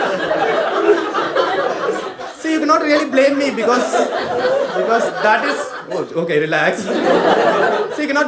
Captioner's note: audience laughing longer than he expected; audience laughing more